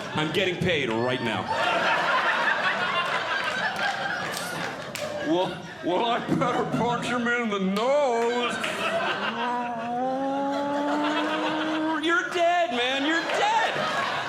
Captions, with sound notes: I'm getting paid right now. [Audience Laughing] “Well, well I better punch “him in the nose.” [Audience Laughing] You're dead, man. You're dead.